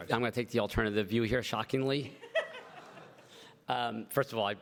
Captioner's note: everybody laughs